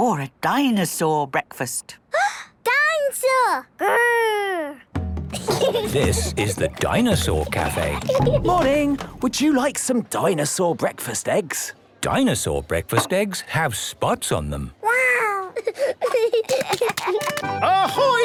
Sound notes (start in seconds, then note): 2.4 gasps; 5.3 children giggling; 15.4 giggling